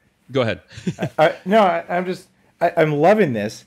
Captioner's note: laughs